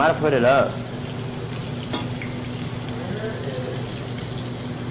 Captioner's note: sizzling